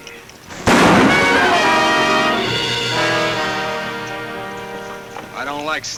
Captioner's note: gun bangs; dramatic music